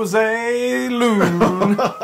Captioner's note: laugh